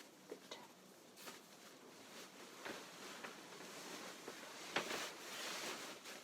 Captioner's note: fabric rustling